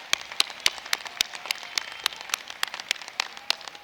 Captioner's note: applause